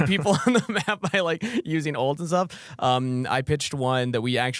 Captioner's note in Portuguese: risos